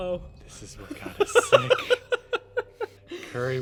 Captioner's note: laughing